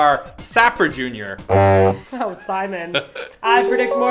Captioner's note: horn honks